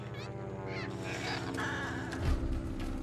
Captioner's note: airplane engine buzzes; squawks